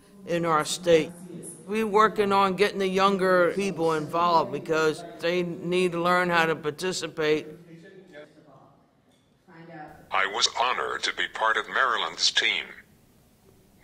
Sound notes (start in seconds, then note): 9.3 with synthesized voice